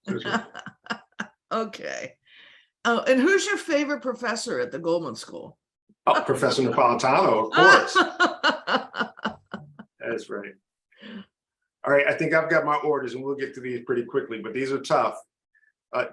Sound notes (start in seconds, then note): 0.0 laughs; 7.9 laughs